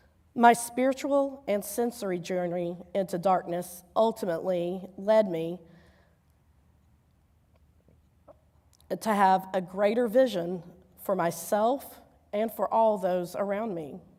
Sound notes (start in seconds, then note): none